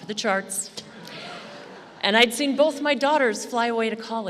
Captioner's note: laughter